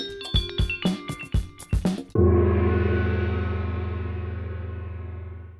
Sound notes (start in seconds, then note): 0.0 cute noodle bell music; 2.1 gong!!!!!